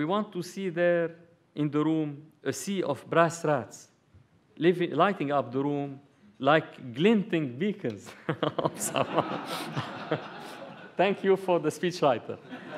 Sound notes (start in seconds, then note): 8.1 laughter